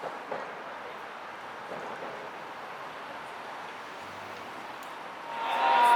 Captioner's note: car